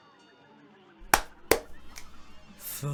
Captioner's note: snap; clap